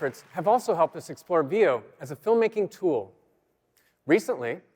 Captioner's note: applause